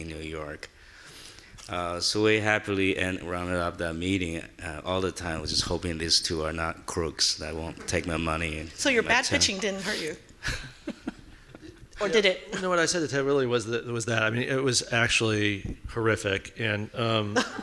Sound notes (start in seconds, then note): 10.4 laughing